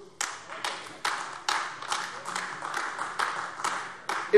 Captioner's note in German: Beifall AfD